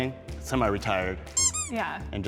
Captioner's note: pool toy squeaks